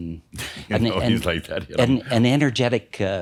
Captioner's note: Adamus chuckles